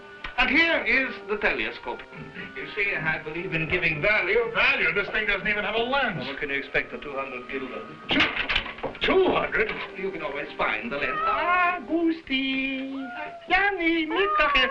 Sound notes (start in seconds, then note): 12.5 cats meowing